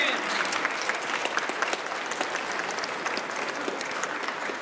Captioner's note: audience applauds